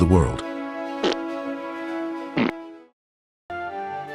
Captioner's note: sparkles fart